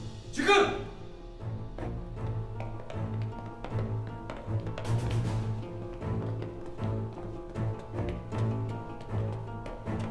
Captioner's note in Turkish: Ayak sesleri; Müzik - Gerilim